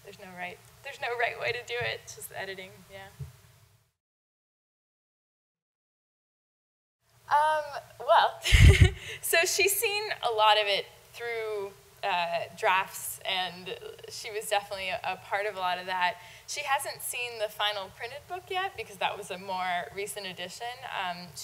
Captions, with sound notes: There's no right way to do it. It's just editing. Well (laughing) So, she's seen a lot of it through drafts, and she was definitely a part of a lot of that. She hasn't seen the final printed book yet because that was a more recent edition.